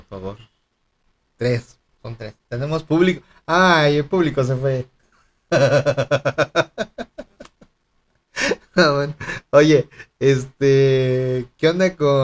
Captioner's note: laughs